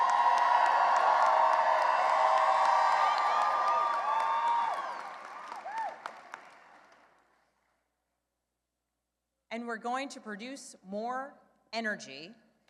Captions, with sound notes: (Cheering and applause) And we're going to produce more energy.